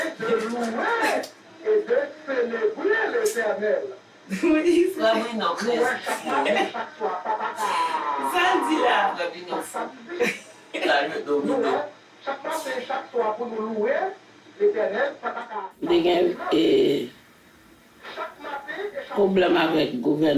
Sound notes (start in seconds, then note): 0.0 laughing; 5.5 speaking in Creole; 16.5 speaking in Creole